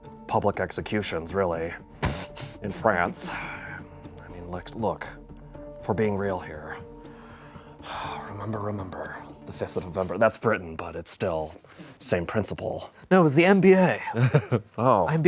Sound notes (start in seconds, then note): 2.1 laughs; 7.9 sighs